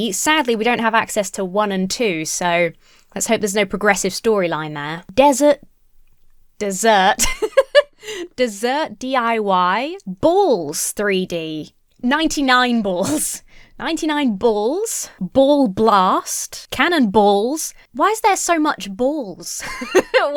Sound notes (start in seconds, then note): 7.2 laughs; 19.6 laughs